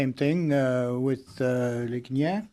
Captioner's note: speaking French